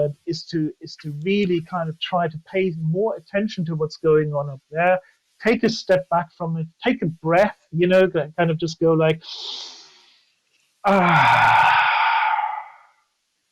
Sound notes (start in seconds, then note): 11.1 deep inhale and exhale